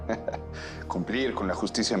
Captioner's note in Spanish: Risas